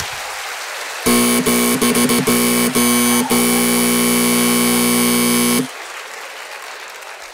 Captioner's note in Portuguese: aplausos; campainha